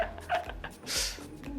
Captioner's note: laughs